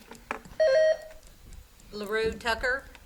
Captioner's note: buzzer beeps